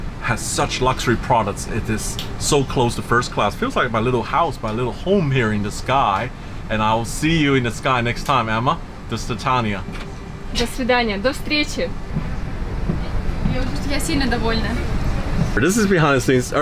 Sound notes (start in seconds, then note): 9.1 speaks in foreign language; 13.4 woman speaks in foreign language